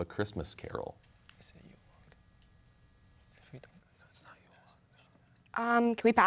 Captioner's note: team whispering